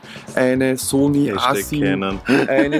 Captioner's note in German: lacht